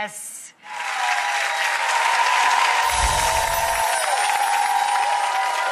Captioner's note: applause and cheering